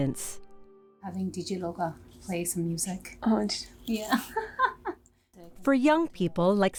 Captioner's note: laughing